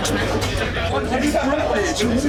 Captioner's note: chatter